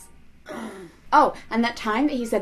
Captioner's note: grunts